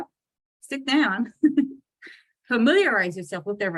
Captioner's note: laughs